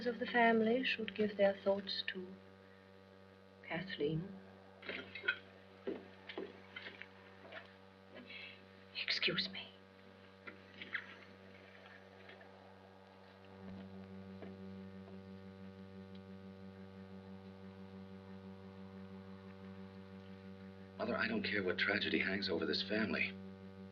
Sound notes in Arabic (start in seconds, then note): 13.0 خطوات